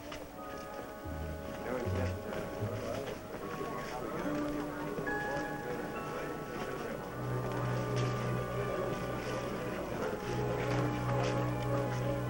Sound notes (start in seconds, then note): 1.2 chatter